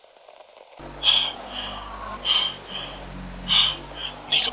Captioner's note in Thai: เสียงหอบหายใจ